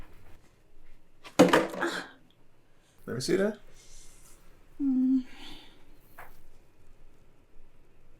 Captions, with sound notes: (Abby gasping) - Lemme see that. - Mm.